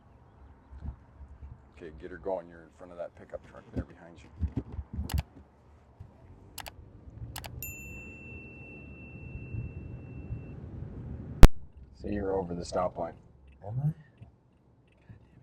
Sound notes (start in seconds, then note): 5.6 click sounds; 7.4 ring sound